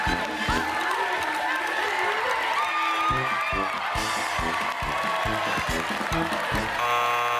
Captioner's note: applause